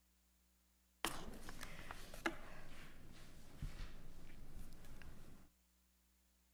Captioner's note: pages rustling